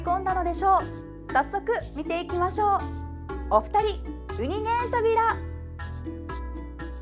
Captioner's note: in Okinawan